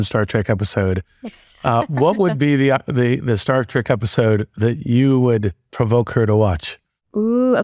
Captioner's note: laugh